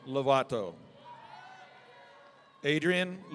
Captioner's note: audience cheering